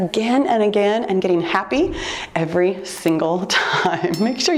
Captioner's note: laughs